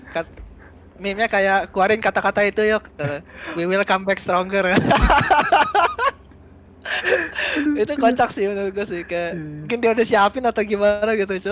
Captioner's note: laugh